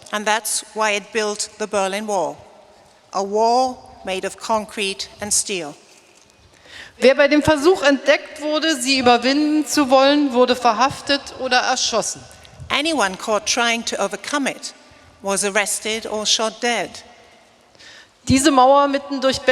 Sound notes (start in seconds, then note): 7.3 speaking in German; 18.3 speaking in German